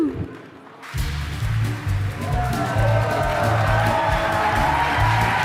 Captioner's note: applause and music